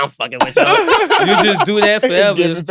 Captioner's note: laugh